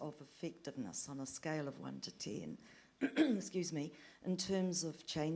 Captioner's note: clears throat